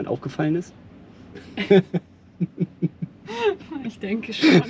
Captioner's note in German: beide lachen